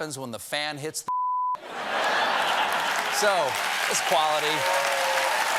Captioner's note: laughter